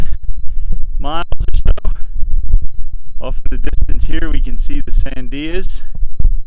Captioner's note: light wind blowing